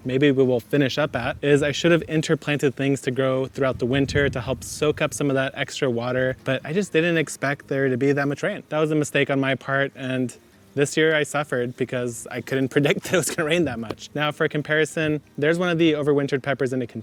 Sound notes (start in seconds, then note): 12.8 laughing